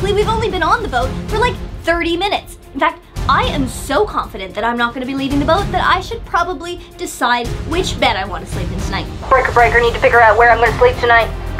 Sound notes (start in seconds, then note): 9.3 over radio